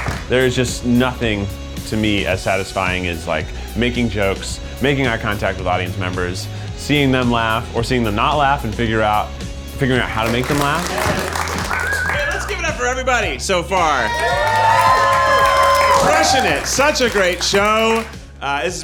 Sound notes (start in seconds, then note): 10.0 audience applauds; 13.7 audience cheering and clapping